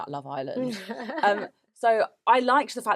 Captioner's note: laughs